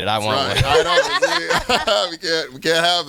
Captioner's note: group laughing